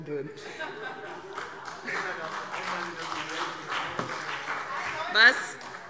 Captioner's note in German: Heiterkeit und Beifall CDU und BÜNDNIS 90/DIE GRÜNEN